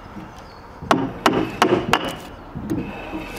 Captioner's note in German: Klopfen